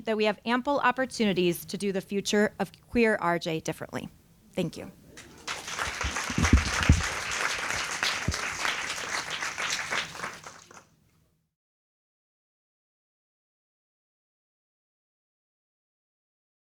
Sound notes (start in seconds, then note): 5.2 applause